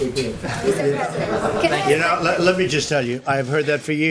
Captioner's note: laughter